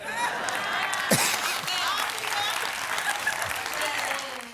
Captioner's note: audience laughs